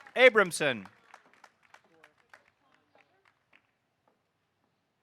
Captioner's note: audience applauding